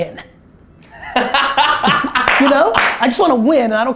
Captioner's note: laughter